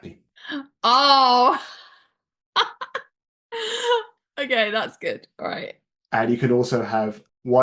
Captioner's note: laughs